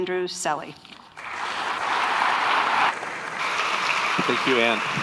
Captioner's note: audience applauding